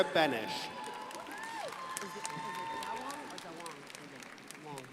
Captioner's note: crowd applauding